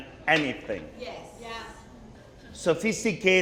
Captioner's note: crowd